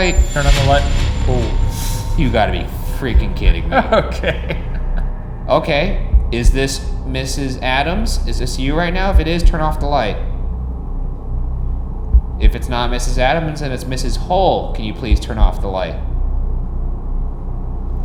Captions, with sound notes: - Turn on the light. Oh. - You gotta be freaking kidding me. - (laughing) Okay. - Okay. Is this Mrs. Addams? Is this you right now? If it is, turn off the light. If it's not Mrs. Addams and it's Mrs. Hull, can you please turn off the light?